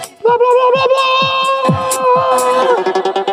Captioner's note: cheers; upbeat electronic music